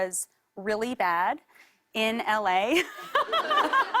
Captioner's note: laughter